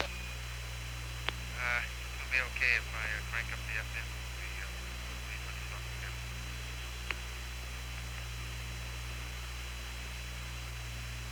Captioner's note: trails off into silence, transmission very quiet